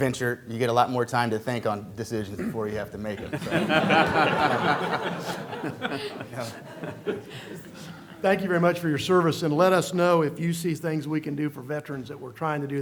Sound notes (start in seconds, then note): 6.2 laughter